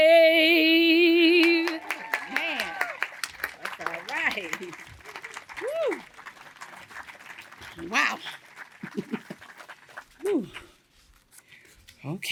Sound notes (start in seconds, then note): 1.3 cheering and applause